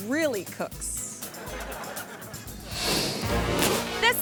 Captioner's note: audience laughing